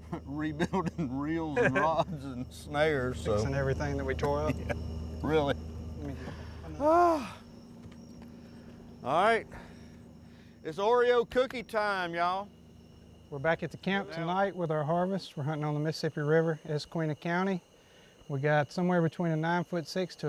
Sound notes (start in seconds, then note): 4.2 laughs; 6.0 sighs